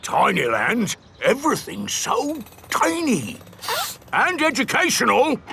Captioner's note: sniffs